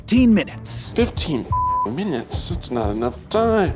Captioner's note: beep